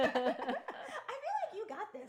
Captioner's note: laughing